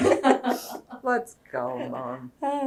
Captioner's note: laughter